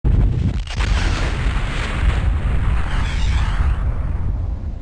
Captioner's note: explosion sound effect